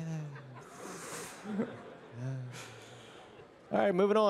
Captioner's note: breathing deeply